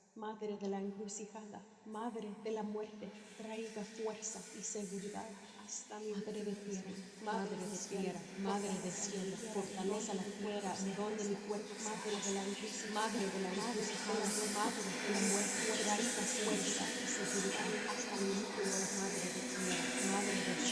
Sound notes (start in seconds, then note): 8.3 Elena repeating, whispers; 15.3 whispers intensify